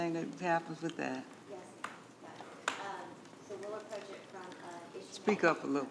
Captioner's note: quietly